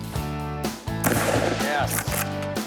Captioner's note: gun firing